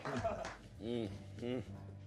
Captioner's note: chuckles